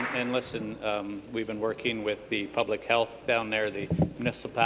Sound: applause

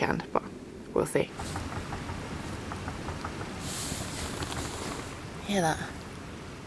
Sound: distant chugging train noise

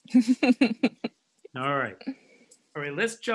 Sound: laughs

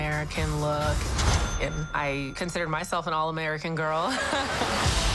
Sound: laughs

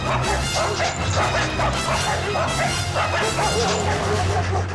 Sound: dogs barking insanely

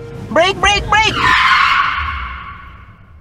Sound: car skid

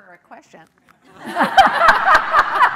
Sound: laughing

